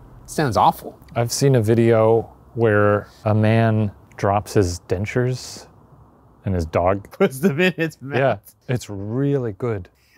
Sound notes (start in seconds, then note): 7.3 laughing